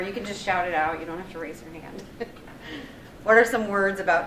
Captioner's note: chuckles